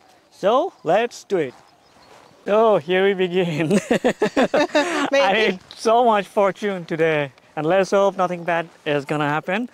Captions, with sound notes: So let's do it. Oh, here we begin. (laughing) I made so much fortune today. And let's hope nothing bad is gonna happen.